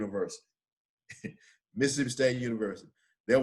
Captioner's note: chuckles